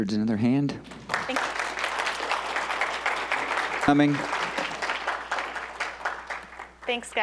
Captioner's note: applause